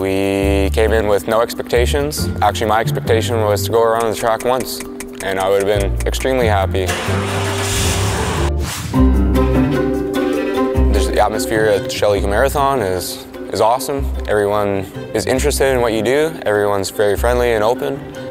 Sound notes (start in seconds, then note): 6.8 car revving; 8.8 light upbeat music